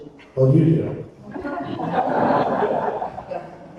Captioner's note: attendees laughing